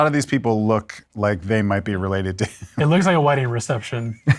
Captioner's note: laughs